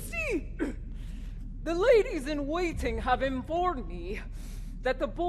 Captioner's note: clears throat; sniffles